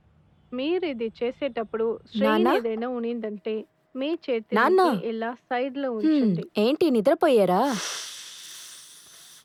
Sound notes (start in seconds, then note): 0.6 tv audio